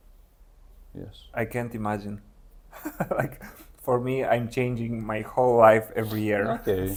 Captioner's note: laughs